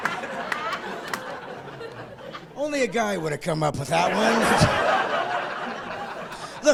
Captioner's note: laughing